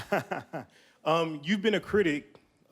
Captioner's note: laughing